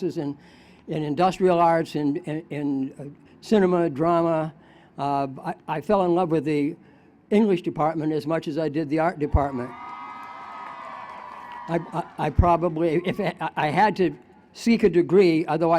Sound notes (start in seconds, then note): 12.3 cheers